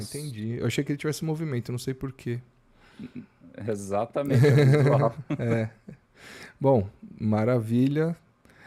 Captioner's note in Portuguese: risadas